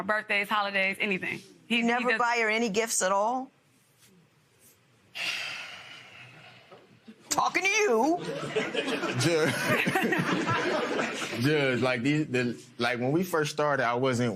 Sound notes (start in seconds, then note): 5.9 sighs; 8.2 laughter